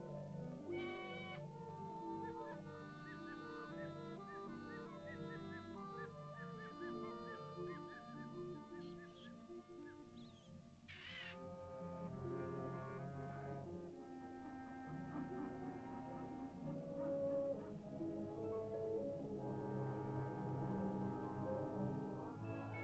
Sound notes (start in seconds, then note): 1.7 soft ominous music; 2.6 birds chirping; 10.8 bird squawks; 13.2 soft ominous music; 22.6 uplifting music